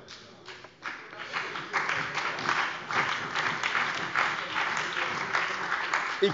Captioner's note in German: Beifall bei der CDU und dem BÜNDNIS 90/DIE GRÜNEN